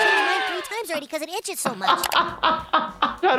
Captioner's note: laughs